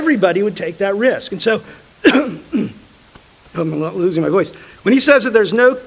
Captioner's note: clears throat